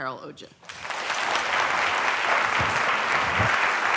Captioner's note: applause